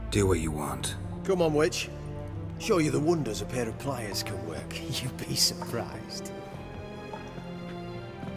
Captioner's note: chuckling